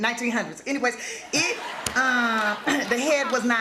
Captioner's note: laughter